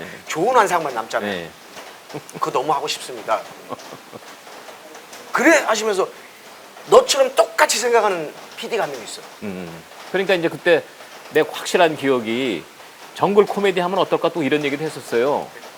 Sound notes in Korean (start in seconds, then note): 3.4 웃음